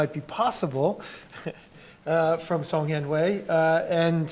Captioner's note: laughs